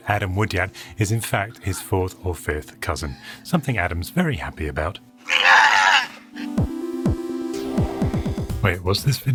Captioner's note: crying screech